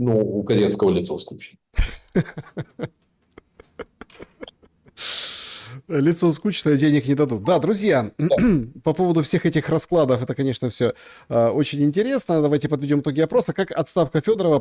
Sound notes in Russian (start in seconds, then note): 1.8 смех; 4.7 фыркает; 8.2 откашливается